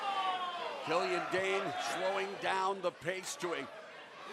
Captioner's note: crowd chatter